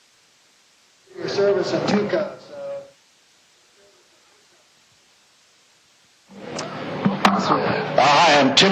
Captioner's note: echo